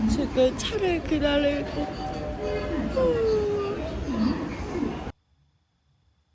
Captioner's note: yawn